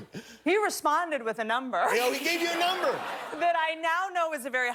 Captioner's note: laughter